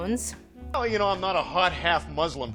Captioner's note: none